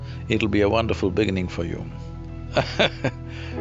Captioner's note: laughs